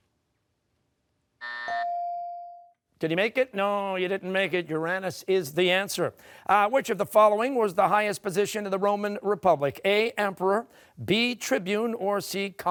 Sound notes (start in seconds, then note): 1.4 buzzer; 1.8 ringer dings